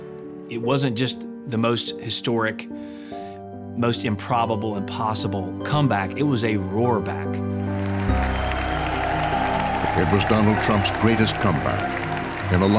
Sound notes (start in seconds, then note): 7.8 audience cheers